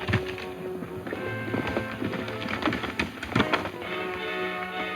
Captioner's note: hooves clopping